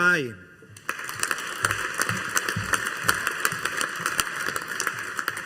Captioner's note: audience applauding